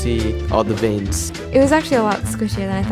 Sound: voiceover

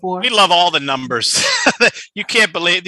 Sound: laughs

